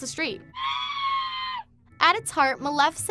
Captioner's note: screaming